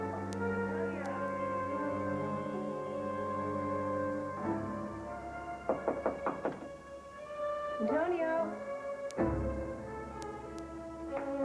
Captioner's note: knock on door